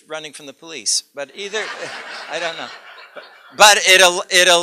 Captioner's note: laughter